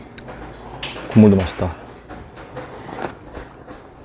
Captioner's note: slurp